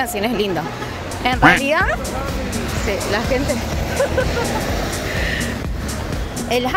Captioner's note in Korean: 차들이 빵빵거림